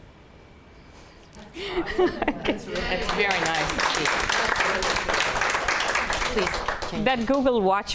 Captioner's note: laughter and clapping